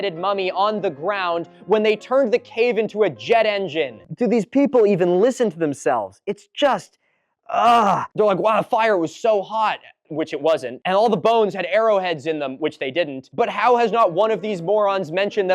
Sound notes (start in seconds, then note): 7.5 sounds of anguish